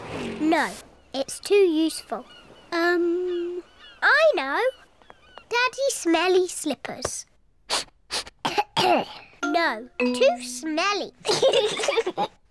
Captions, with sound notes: No! It's too useful. Um, I know! Daddy's smelly slippers. (SNIFFS AND COUGHS) No! Too smelly. (BOTH LAUGH)